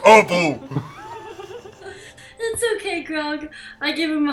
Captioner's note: laughter